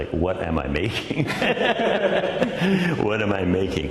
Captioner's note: laughing